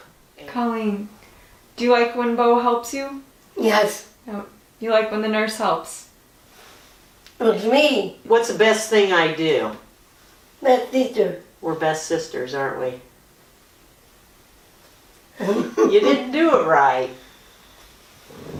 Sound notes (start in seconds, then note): 15.4 laughter